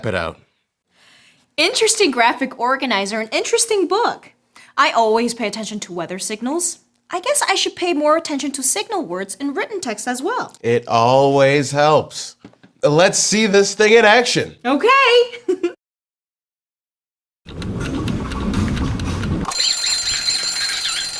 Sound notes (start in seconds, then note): 15.3 laughter; 16.8 ringer sounds; 16.8 rolling sound; 20.9 squeaking